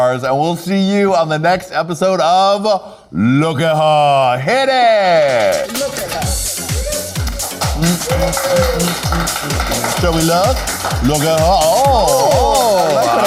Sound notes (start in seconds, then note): 5.0 upbeat music; 7.4 audience clapping